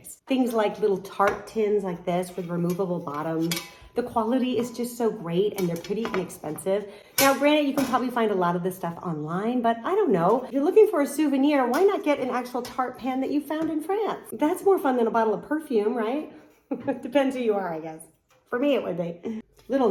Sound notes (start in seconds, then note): 16.6 chuckles